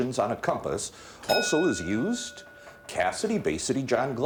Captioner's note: bell dinging